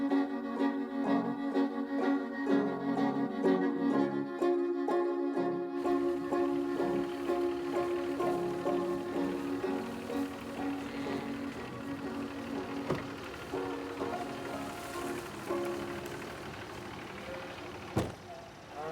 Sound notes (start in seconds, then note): 1.2 cheerful music continues; 6.6 cows lowing; 6.6 truck rumbling